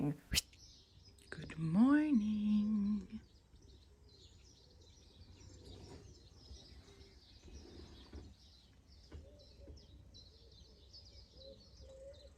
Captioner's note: quiet nature sounds